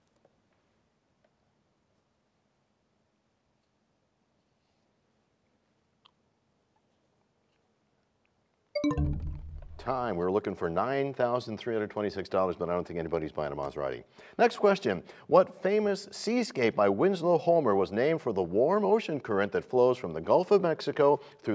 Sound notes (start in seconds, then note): 8.7 bell chimes, time expires